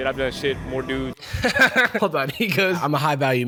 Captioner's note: laughs